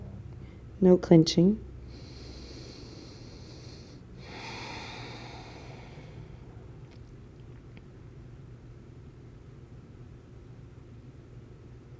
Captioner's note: breathing